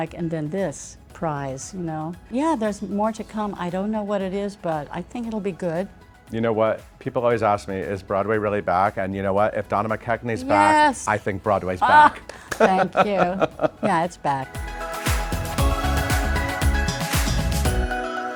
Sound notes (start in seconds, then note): 12.4 laughing; 14.9 bright upbeat music